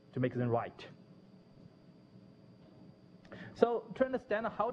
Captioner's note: pause